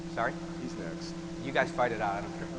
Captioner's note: voiceover